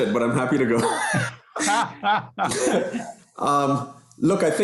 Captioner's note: laughter